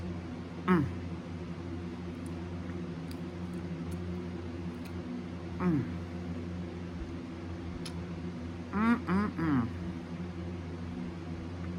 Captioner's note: moans in pleasure